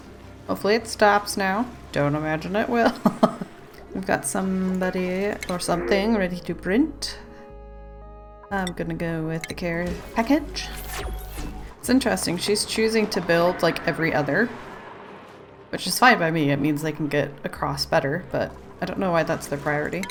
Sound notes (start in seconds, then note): 3.2 laughs